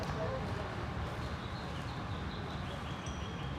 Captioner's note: birds chirping